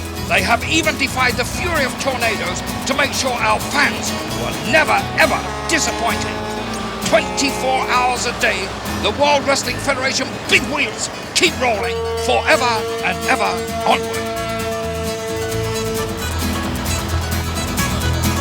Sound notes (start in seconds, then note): 14.4 trucks honking; 15.5 upbeat music